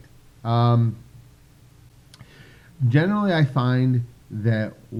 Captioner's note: pause